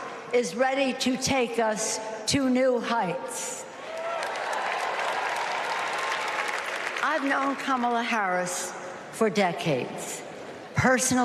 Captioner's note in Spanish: Aplausos